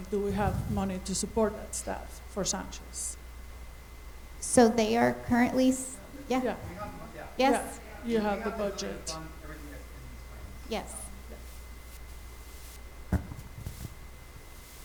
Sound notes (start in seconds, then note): 9.6 light chatter